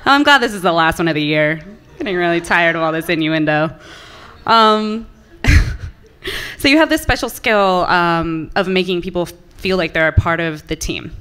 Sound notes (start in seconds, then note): 5.2 laughs